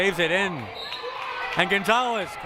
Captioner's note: whistle blaring